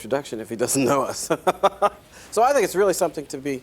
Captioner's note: laughs